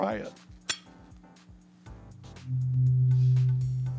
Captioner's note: tuning fork clinking; tuning fork playing